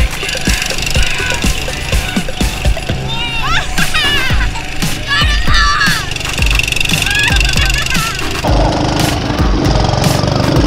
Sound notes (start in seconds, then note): 3.5 laughing; 7.6 motors roaring